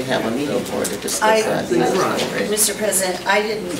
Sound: overlapping chattering

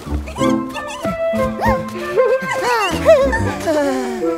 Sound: cheering; deep breath

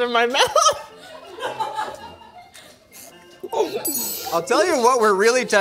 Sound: laughing

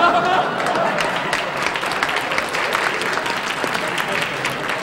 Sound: audience applauding

